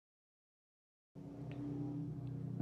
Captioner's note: loud engine sounds